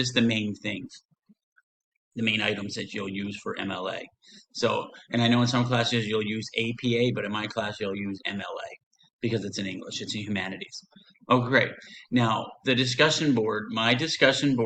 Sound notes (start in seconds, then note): none